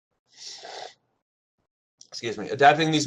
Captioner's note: sniffles